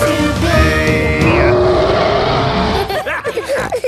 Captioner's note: roaring; laughter; snorting